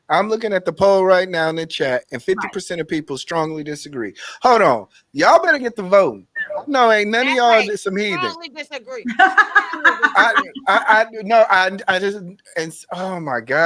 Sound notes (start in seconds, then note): 10.6 laughing